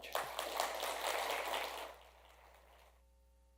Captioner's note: applause